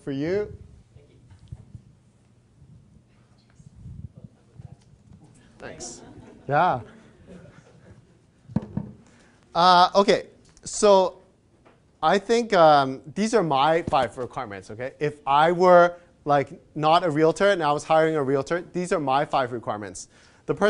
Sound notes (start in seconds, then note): 2.0 crowd